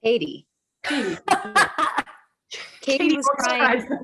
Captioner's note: laughter